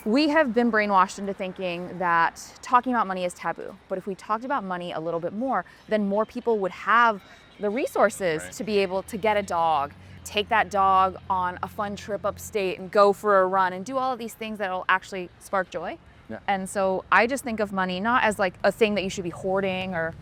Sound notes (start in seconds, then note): none